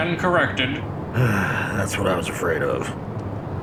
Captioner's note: sigh